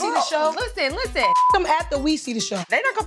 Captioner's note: beep